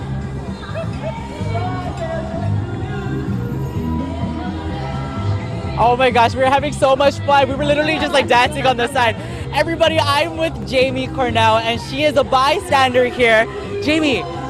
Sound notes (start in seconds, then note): 3.5 crowd cheering